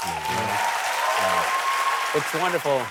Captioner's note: cheers and applause